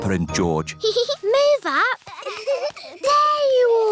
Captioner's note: peppa giggles